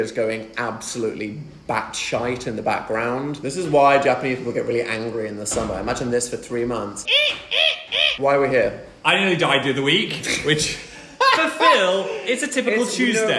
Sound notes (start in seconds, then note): 7.0 imitates cicada screeching